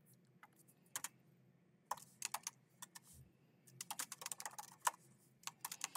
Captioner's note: keyboard clacking continues